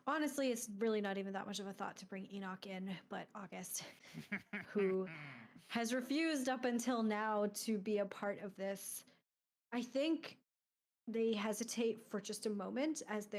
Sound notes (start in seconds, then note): 4.1 laughing